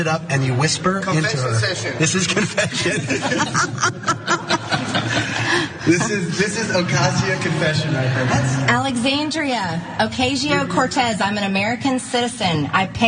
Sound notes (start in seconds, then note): 4.7 laugh